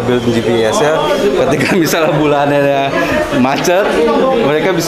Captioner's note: chuckles